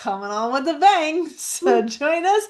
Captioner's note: laughs